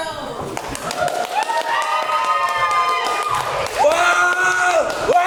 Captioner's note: audience cheers